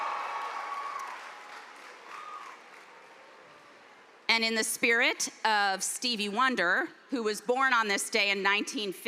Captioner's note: cheers and applause